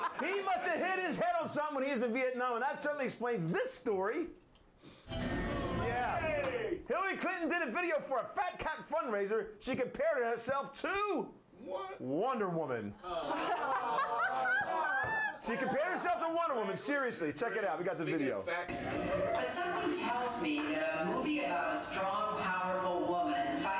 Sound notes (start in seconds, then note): 4.9 jail cell slamming; 13.0 laughter